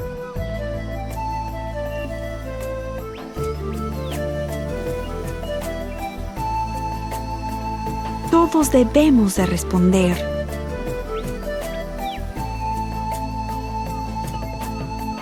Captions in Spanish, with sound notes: –Todos debemos de responder. (pájaros trinando)